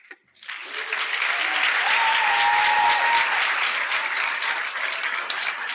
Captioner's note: applause and shouting